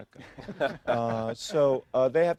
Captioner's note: laughter